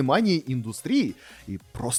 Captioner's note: inhale